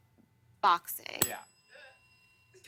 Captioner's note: ding